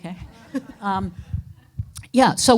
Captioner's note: audience laughing